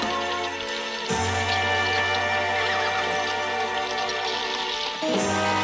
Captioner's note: تصفيق